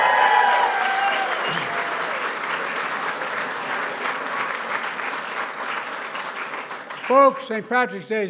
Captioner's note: applause